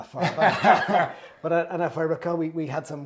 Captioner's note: laugh